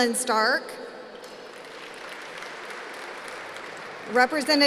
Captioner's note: applause